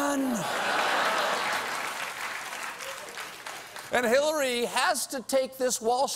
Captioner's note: applause